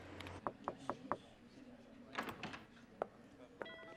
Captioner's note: soft knocking